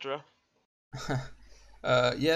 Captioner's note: laughs